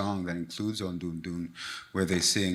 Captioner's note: speaks in Foreign Language